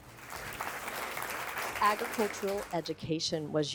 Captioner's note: crowd applause